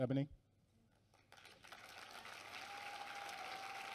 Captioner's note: applause